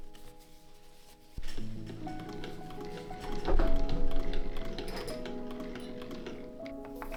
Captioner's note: rewarding whirr of a buttery smooth mechanism